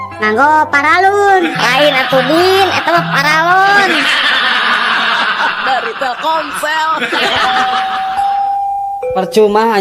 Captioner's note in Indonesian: tertawa